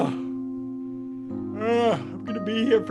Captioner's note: Ted yawning